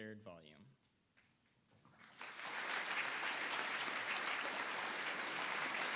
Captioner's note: audience applauding